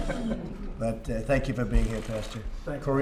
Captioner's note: laughter